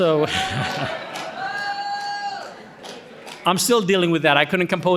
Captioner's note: audience cheering